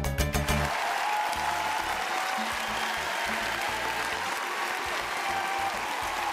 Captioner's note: cheering